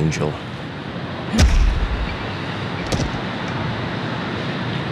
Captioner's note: thudding